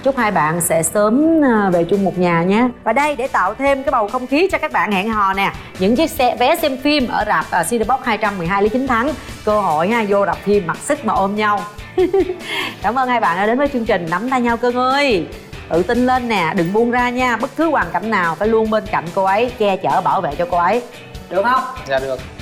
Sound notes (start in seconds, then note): 11.9 giggle